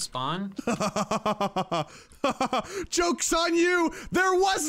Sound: laughs

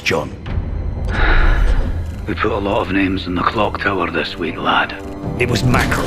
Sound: sigh

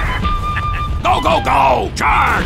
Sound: The M36 GMC chuckles

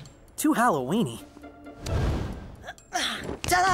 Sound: none

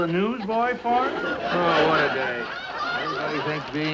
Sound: audience laughs hysterically

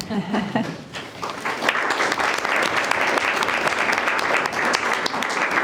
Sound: group applauding

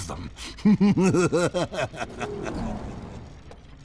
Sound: evil laughter

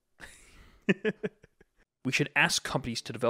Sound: laughs

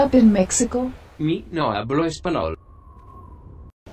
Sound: speaks Spanish in English in Italian Accent

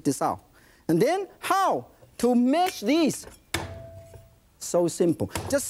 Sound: bangs knife

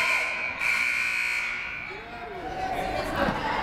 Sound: crowd booing; buzzer sounding

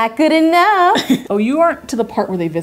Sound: laughing

